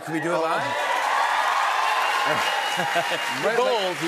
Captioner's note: cheers and applause